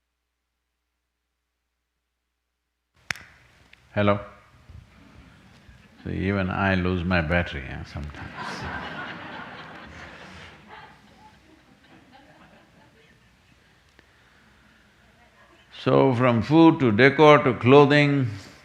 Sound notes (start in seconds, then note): 11.0 laughter